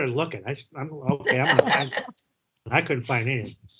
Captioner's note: all laugh